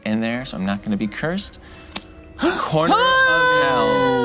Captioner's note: cheers